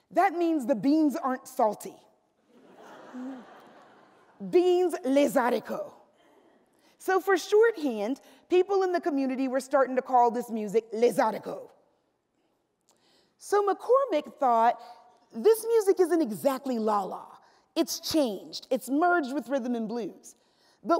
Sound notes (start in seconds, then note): 2.8 laughs; 5.0 speaks French; 10.8 speaks French